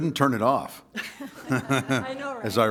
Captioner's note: laughter